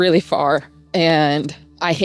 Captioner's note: laughs